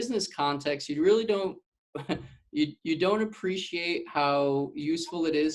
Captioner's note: chuckling